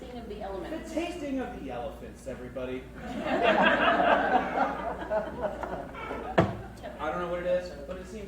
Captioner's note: crowd laughs